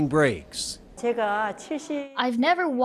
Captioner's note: speaking Korean